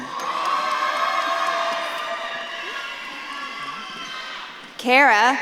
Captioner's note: audience claps and cheers